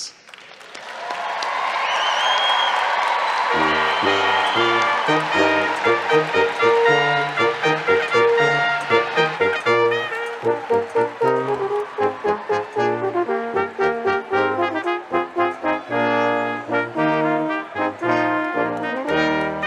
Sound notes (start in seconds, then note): 6.1 applause